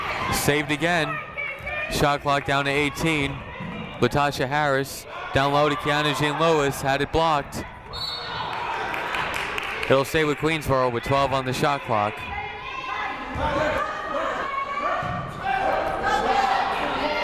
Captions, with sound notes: Saved again, shot clock down to 18. Latasha Harris down low to Keyanna Jean-Louis, had it blocked. (whistle blows) It'll stay with Queensborough with 12 on the shot clock.